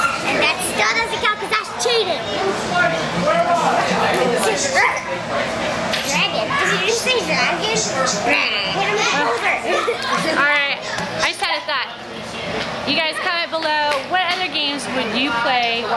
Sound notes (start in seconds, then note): 5.2 squeals; 9.3 shouting